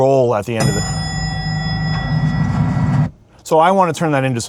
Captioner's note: bell dings